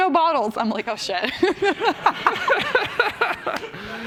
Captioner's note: laughter